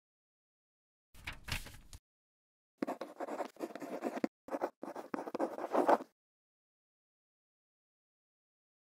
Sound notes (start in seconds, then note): 2.8 quill scratching